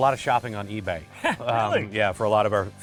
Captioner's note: chuckles